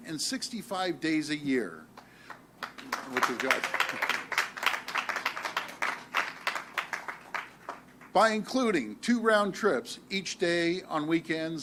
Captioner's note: applause